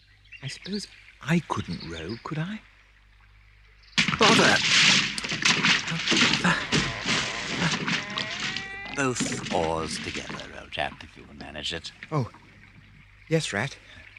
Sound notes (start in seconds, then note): 5.1 splashes frantically